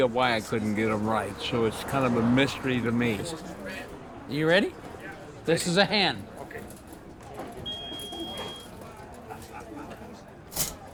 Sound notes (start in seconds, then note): 7.7 electronic beeping